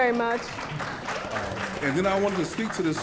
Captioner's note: clapping